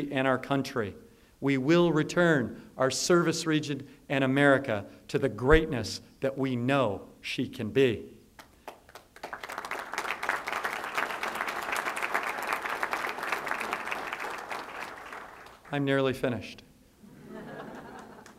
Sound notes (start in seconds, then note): 8.3 applause; 17.0 laughter